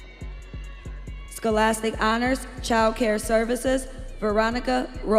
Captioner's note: audience cheering